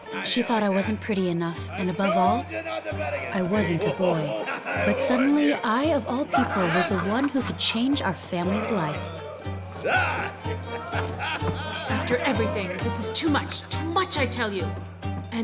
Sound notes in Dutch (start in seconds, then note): 10.0 mannen lachen; 10.0 mannen schreeuwen